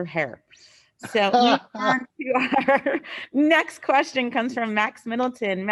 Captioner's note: laughs